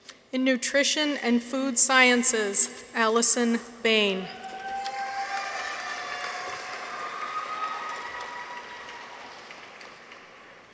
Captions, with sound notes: In Nutrition and Food Sciences. Allyson Bain. -(people cheer) -(audience applauds)